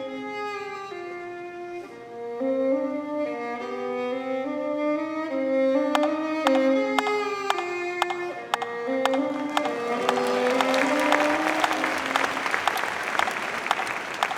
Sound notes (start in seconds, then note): 7.6 rhythmic tapping; 11.1 audience applauding